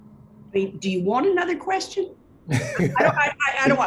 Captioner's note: laugh